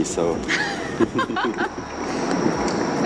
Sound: laughter

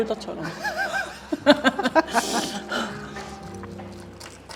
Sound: laughing

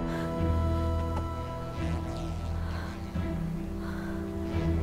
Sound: flies buzzing

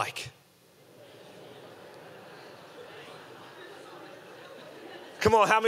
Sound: congregation murmuring

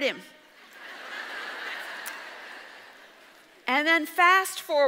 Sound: audience laughs

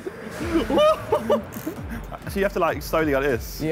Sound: all laughing

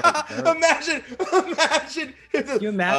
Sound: laugh

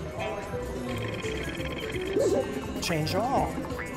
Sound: wheel spins

